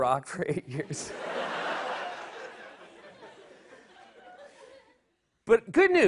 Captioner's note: laughter